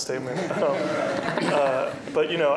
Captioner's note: laughter